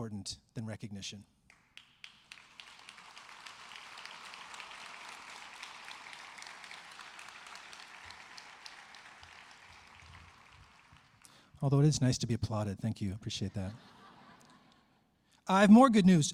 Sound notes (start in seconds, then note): 8.6 applause